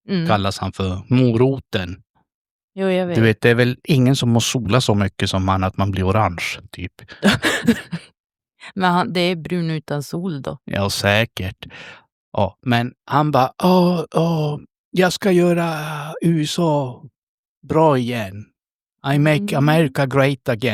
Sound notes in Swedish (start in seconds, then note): 7.1 skratt